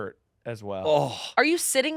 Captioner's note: groans